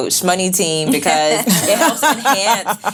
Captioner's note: laughing